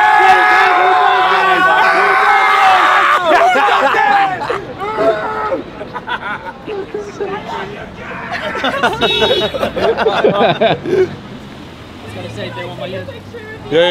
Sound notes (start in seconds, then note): 5.1 laughing